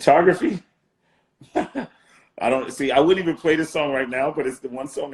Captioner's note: laughing